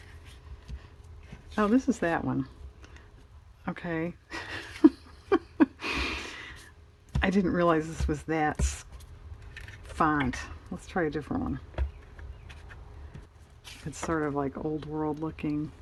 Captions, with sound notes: oh this is that one, okay (laughs) I didn't realize this was that font, let's try a different one it's sort of like old-world looking